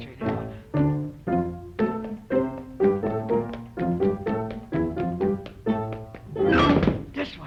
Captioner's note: dramatic marching music; footsteps stomping